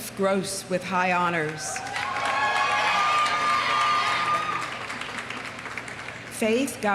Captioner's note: audience applauding; audience cheering